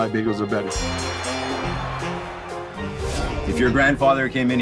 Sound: bell ringing

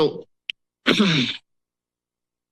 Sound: coughs

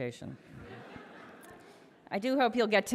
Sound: audience laughs

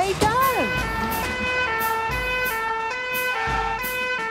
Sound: siren sounding

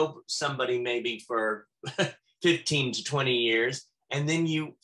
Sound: chuckles

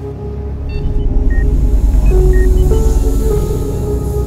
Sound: monitors beeping

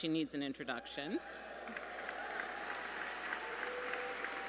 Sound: cheers

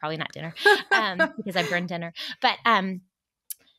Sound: laughs

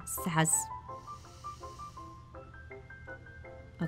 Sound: deep breath

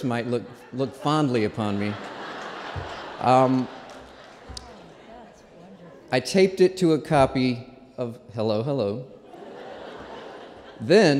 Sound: laughter

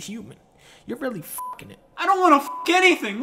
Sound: beep

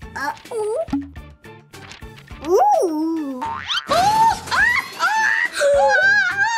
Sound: suspenseful music; monkey shrieking

